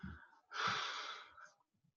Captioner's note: woman sigh